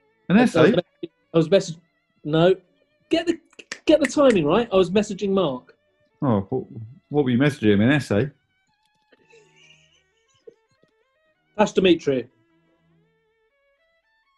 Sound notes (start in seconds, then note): 3.5 clicks fingers; 9.4 giggling